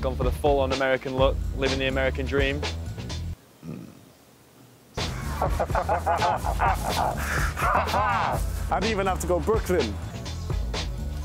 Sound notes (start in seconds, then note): 3.6 burping; 5.0 laughing; 11.0 upbeat jazz music